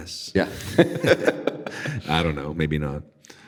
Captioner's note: laughing